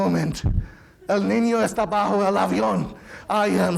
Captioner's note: speaking in foreign language